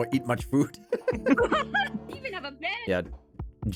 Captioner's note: laughing